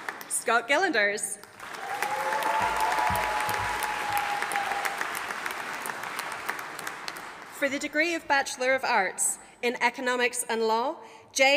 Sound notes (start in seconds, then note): 1.5 audience applauding